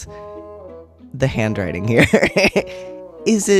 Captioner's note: laugh